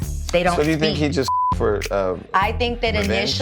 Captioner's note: beep